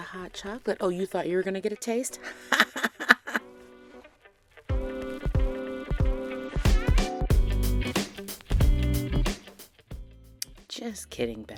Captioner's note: cackles